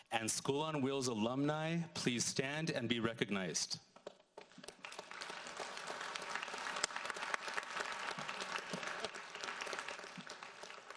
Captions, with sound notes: and School on Wheels alumni please stand and be recognized? (audience applauds)